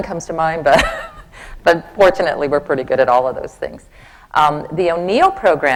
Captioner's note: laughs